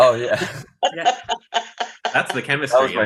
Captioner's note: laughing